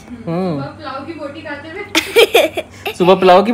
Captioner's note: laughter